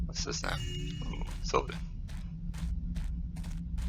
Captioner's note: joyous chime